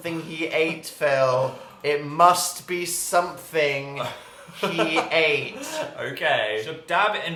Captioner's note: laughing